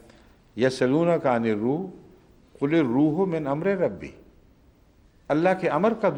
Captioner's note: Arabic